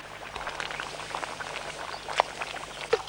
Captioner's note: stew bubbling